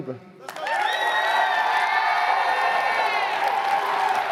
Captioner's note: crowd cheering